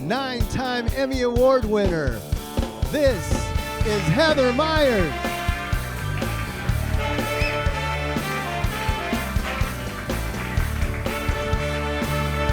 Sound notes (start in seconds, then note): 5.2 audience applauding; 5.2 upbeat music continues